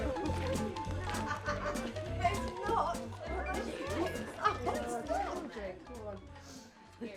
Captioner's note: women laughing, chatting